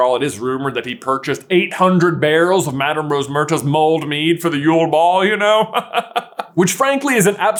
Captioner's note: chuckles